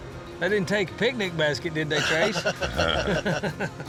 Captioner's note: laughter